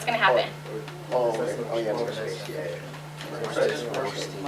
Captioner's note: chatter